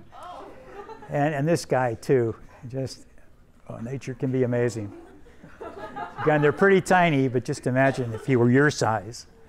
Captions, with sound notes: And this guy too, just nature can be amazing. (students laughing) Yeah, and they're pretty tiny but just imagine if he were your size.